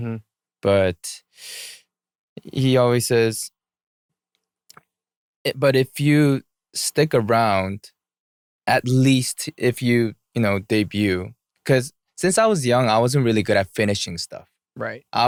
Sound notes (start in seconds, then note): none